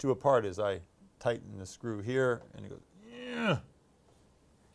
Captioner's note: grunting sound